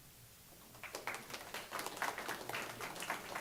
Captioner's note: clapping